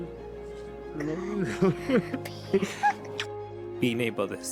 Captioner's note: both sniffling